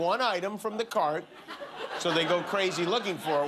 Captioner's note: laughter